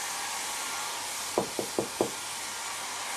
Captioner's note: knock on door